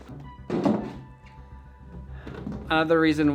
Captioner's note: clunk